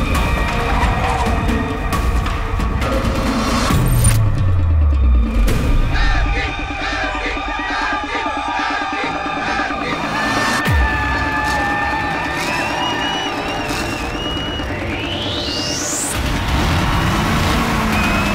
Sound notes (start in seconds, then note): 10.1 crowd Cheering